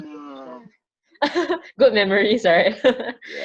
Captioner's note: laughs